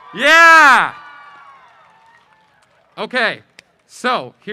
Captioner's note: audience applause